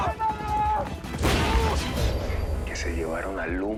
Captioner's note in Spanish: Explosión